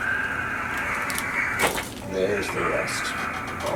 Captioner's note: bones cracking